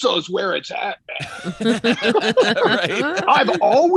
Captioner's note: all laughing